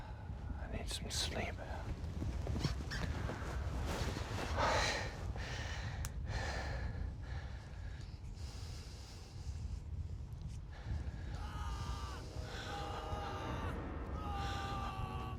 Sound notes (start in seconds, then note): 11.3 man screaming